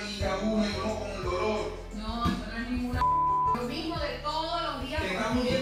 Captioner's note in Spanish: Bip